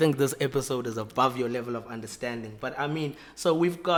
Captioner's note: none